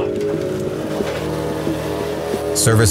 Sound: engine purring

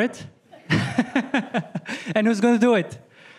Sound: laughter

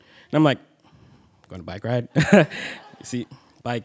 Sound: chuckles

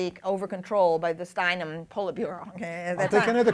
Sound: laughter

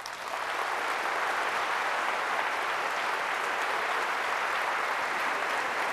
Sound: applause

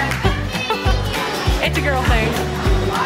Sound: laughs

